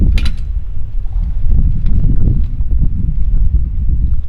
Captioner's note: log tong clanging